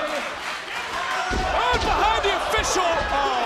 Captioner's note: crowd chants "this is awesome"